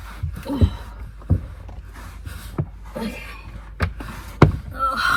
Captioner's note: grunts squeezing into small space; sighs